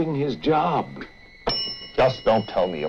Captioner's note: Charlie Towman rings the desk clerk's bell